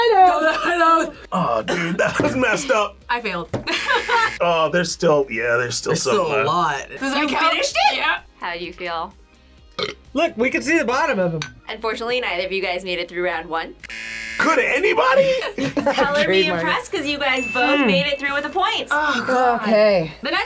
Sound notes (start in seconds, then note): 3.6 laughs; 3.7 buzzer rings; 9.7 burps; 13.8 buzzer rings